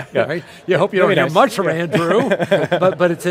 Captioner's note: laughing